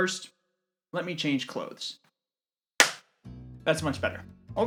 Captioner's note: clap